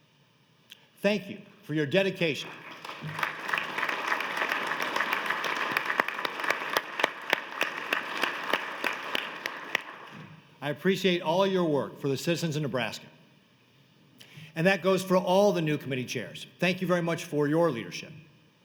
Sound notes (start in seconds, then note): 5.7 applause